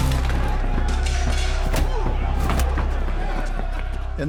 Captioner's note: glass shatters; body thuds